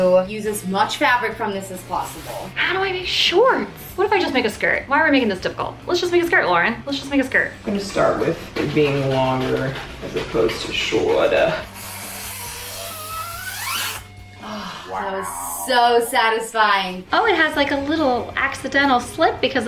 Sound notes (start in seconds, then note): 11.8 scissors snipping